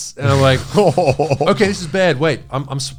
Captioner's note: all laughing